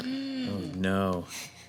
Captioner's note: gasps